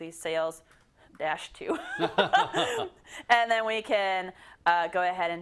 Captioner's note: laugh